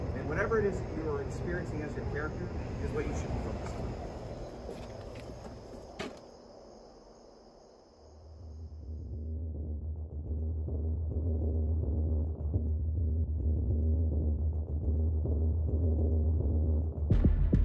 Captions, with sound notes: and whatever it is that you are experiencing as your character is what you should be focused on. [Eerie rumbling noises]